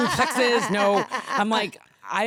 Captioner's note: laughing